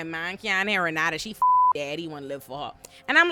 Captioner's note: beep